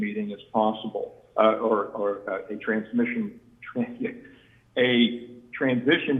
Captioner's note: chuckles